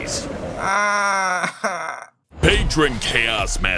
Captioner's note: sad whimper moan